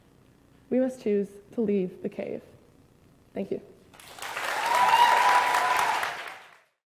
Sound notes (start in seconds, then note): 3.9 applause; 4.1 cheers